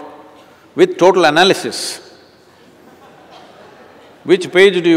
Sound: laughter

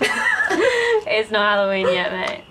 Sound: both laughing; Heidi laughs

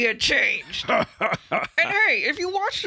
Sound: Han cackles

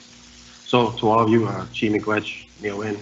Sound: foreign language

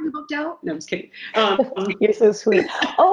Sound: laughs

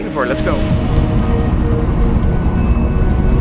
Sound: wind whooshing; upbeat music

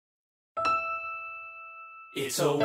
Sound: bell dings; gentle music

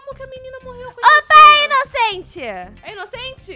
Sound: screaming

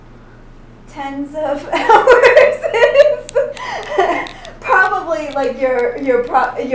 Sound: laughs

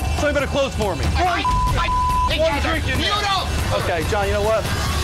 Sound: shouting over each other

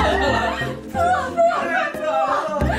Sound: can't stop laughing

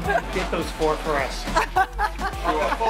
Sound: laughs

